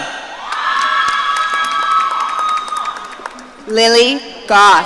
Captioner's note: audience cheering